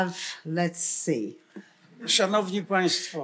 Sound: foreign language

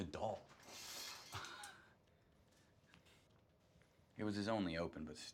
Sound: curtain rings scraping; Marshall laughing

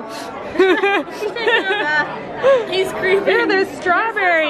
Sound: laughing

